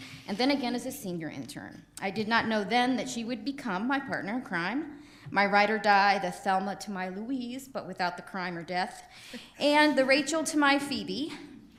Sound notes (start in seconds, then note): none